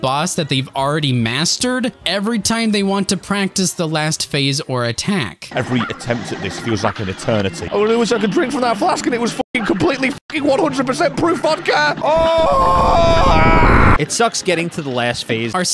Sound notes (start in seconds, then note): 11.8 Unhinged Tarzan yelling